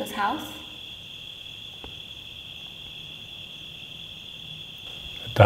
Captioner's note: crickets chirping